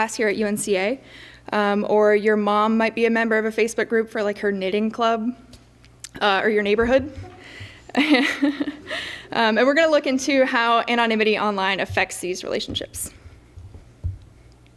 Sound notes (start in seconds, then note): 6.8 laughs